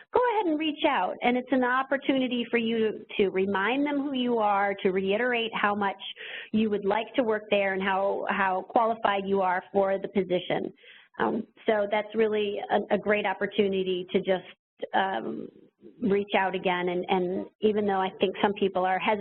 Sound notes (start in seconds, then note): none